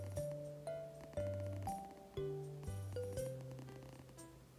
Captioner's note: purring very softly